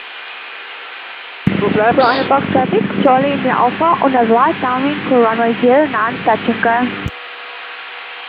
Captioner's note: radio